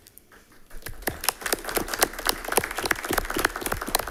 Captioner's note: all clapping